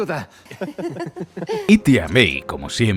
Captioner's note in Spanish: risas